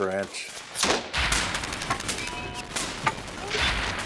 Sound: guns firing

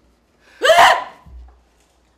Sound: screams

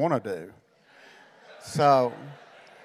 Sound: congregation laughing

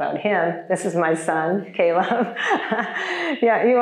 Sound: chuckles

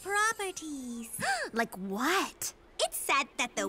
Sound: gasps

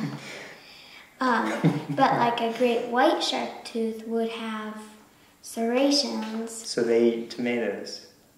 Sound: laughing

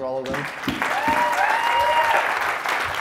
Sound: audience applauds

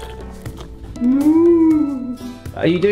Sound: mooing

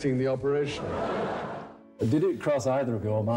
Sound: audience laughing

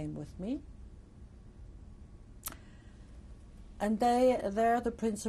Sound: pauses for 3 seconds

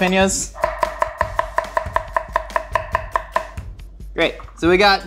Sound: knife thudding

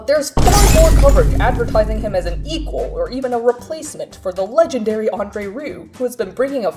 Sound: loud crashing, glass breaking

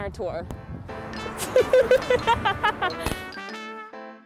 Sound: laugh

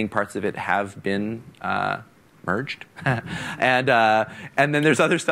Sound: chuckles

